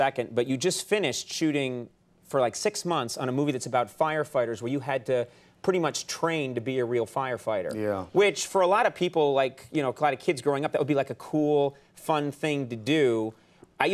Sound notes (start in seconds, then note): none